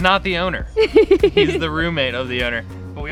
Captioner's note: laughs